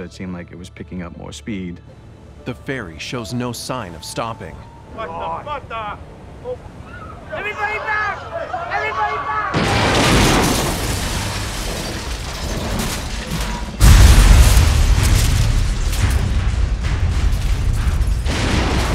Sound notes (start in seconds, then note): 9.6 crash